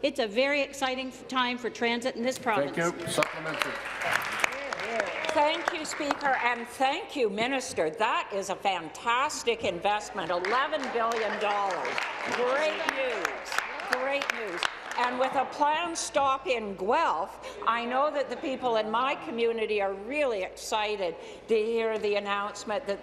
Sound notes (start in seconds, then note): 7.1 applause